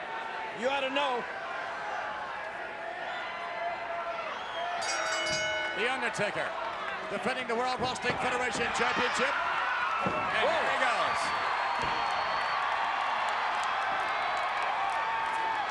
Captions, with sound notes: You ought to know. (bell dings) The Undertaker defending the World Wrestling Federation Championship. Whoa. And here he goes. (crowd cheering continues)